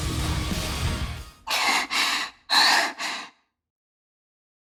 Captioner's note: panting